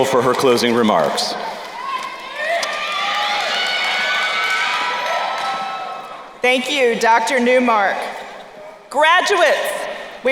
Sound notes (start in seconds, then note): 1.4 crowd cheering